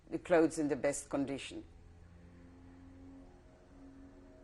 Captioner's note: pauses for 3 seconds